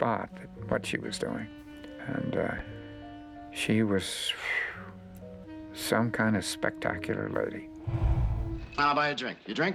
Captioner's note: phew